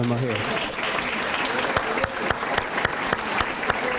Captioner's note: applause